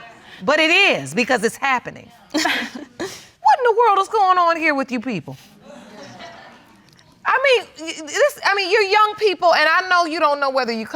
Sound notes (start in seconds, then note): 2.4 scoffs